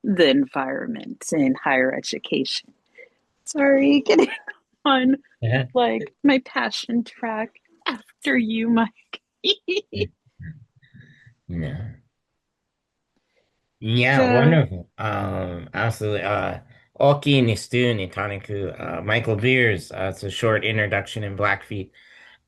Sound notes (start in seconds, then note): 11.6 laughing; 17.1 speaking in foreign language